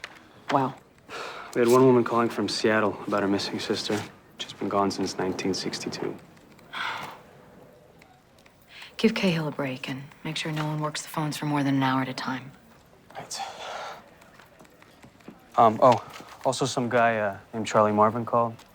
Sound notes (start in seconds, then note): 6.6 sighs